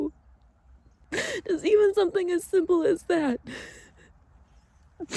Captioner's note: sniffles; cries softly